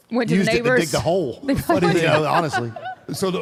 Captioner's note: Michelle laughs